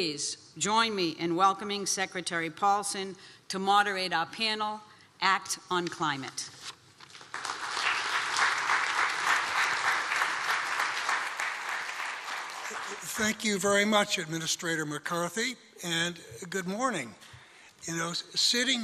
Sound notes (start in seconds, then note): 7.2 applause